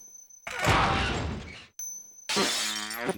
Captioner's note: creak